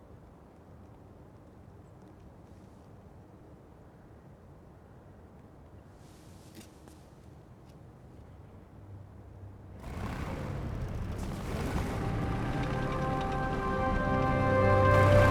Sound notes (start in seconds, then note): 9.6 engine rumbling; 11.2 inspiring music